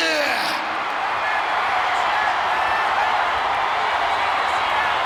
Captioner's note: audience cheering